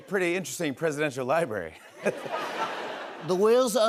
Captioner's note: laughter; As Trump